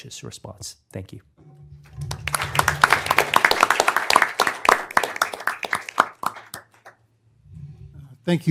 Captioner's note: applause